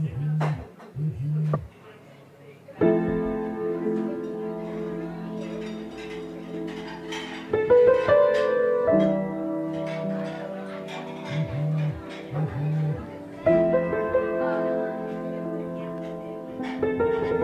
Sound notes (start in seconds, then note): 0.8 phone buzzing; 2.9 gentle piano music; 5.6 dishes clanking; 11.3 phone buzzing